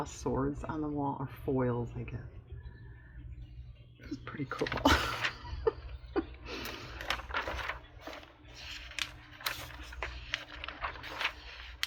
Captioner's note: laughs